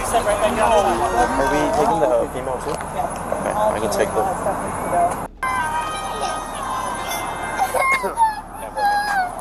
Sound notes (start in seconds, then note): 6.8 child crying